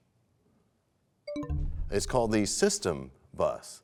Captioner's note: bell chimes, time expires